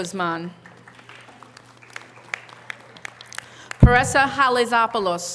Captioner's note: audience applause